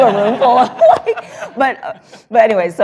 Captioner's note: laughter